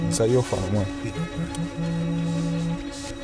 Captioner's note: vibrating continues